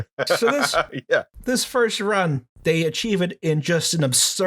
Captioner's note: laughter